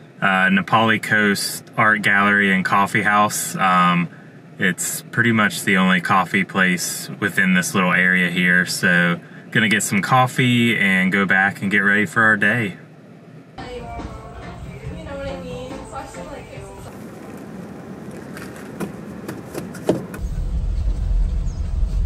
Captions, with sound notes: Nā Pali Coast Art Gallery and Coffee House. It’s pretty much the only coffee place within this little area here. So going to get some coffee and go back and get ready for our day. [people talking]